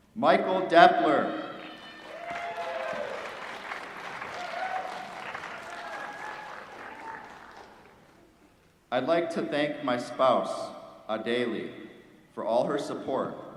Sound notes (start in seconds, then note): 1.6 applause